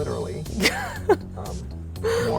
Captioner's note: laughs